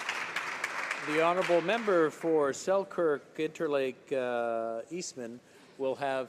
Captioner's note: applause